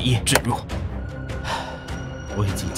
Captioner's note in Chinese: 呼氣